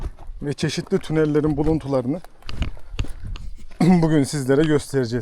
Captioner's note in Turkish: boğazını temizler